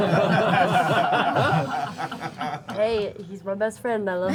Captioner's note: laughter